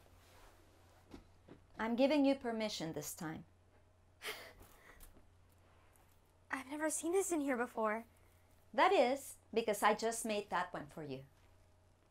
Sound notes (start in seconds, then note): 4.2 Ana chuckling